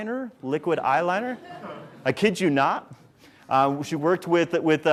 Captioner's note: audience laughs